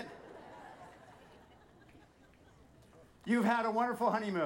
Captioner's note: audience laughing